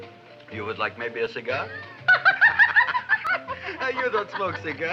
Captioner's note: Audrey laughing